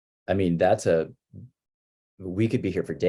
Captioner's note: none